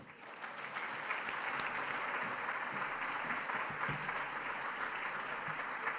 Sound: applause

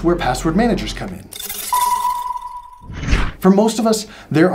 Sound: air whooshing

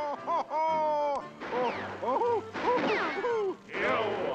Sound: laughing

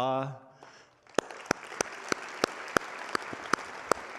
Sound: audience applauding

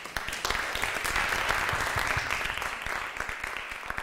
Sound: applause

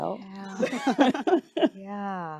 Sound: group chuckling

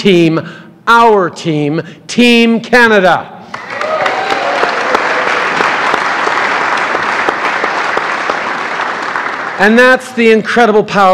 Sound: cheers & applause

